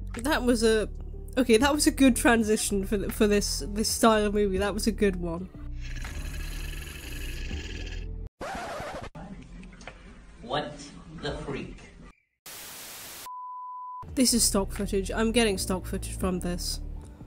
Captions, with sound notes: That was a… okay, that was a good transition for this, this style of movie, that was a good one. [shark growling noises] [record scratch] “What the freak.” [static] This is stock footage, I’m getting stock footage from this.